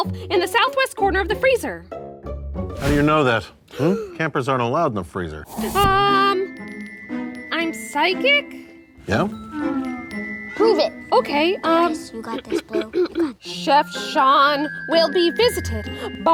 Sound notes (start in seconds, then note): 3.9 Blueberry gasps; 9.4 girls sighing; 12.2 coughing